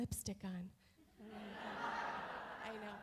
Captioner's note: audience laughs